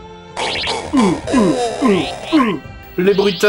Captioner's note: sound effects worthy of the Atari2600